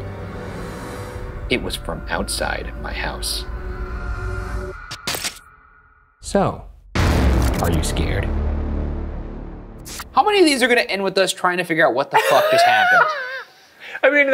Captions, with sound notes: It was from outside my house. (static crackles) So, are you scared? How many of these are gonna end with us trying to figure out what the fuck just happened?